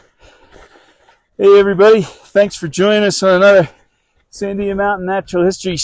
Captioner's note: snow crunching